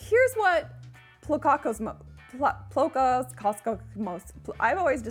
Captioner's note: struggles to say Plocacosmos